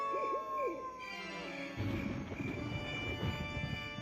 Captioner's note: crickets chirping; thunder clapping